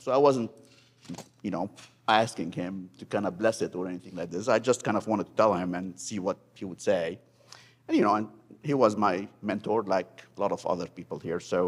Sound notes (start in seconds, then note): none